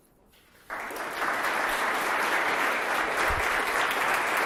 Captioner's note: audience applauding